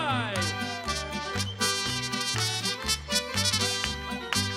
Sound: hands clapping

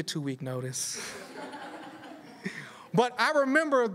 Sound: laughter

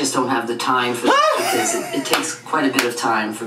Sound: laughs

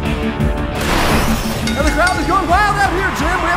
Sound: wrestling bell dings

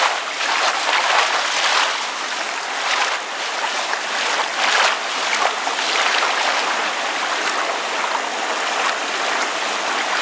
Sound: whispering

